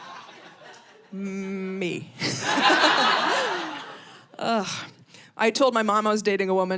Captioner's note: audience laughing